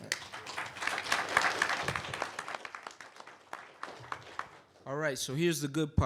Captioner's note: applause